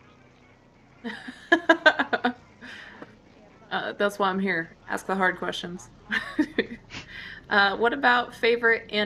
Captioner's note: laughs